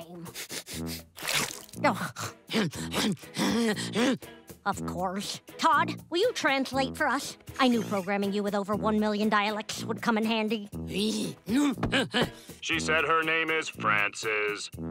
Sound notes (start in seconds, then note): 0.2 sniffs; 2.7 grunting; 10.9 grunting